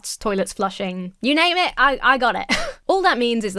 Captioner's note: chuckles